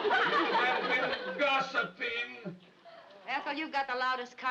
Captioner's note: audience laughs